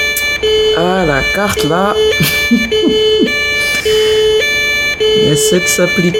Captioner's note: laughs